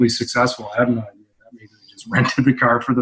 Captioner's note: audio muffles